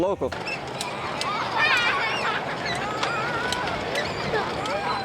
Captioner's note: children laughing